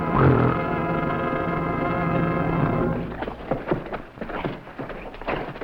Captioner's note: gorilla grunting; men rustling